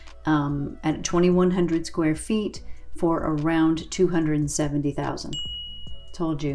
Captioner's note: dinging